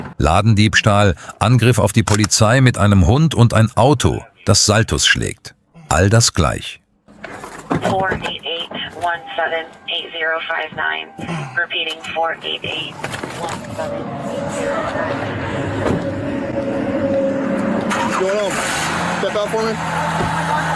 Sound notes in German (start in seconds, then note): 7.1 räuspern